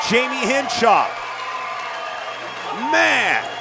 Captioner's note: audience cheering